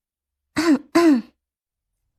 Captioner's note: coughs